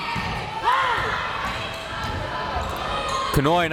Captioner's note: crowd members shouting